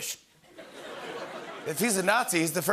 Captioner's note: laughter